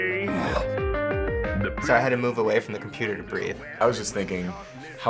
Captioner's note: breathes